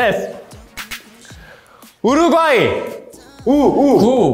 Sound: breathing

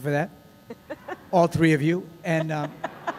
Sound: laughter

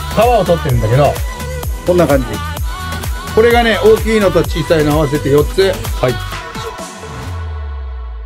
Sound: staff speaks in japanese

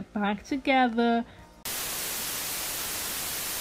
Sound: TV static

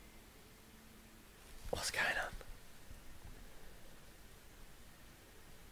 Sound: whispers

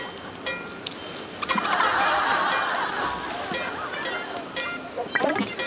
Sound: everyone bursts out laughing

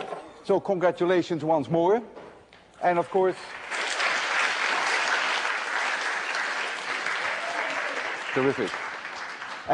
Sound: applause

